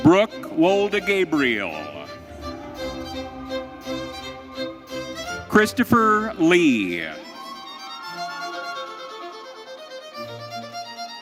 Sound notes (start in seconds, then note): 7.4 audience cheering